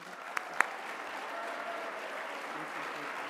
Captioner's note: applause